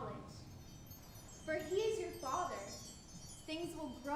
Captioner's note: wind chimes tinkling